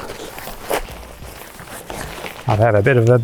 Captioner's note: material rustling